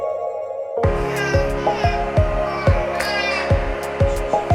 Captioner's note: baby crying; upbeat music